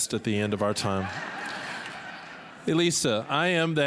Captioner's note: all laughing